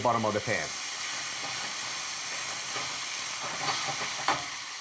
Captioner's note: ingredients sizzling